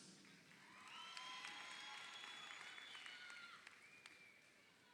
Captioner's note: crowd cheering